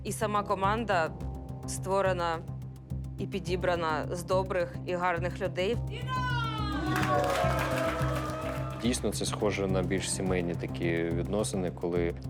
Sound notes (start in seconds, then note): 6.0 team cheering